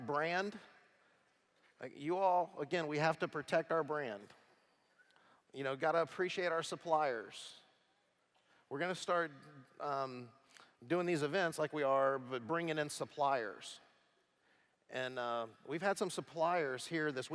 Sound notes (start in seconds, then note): none